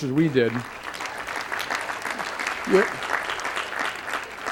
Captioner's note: applause